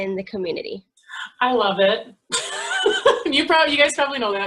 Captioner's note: laughs